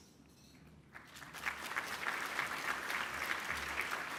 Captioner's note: applause